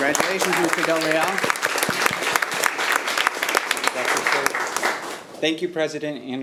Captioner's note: audience applauding